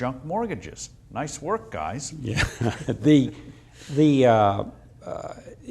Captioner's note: laughs